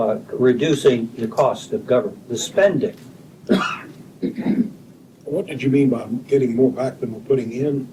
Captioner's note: clears throat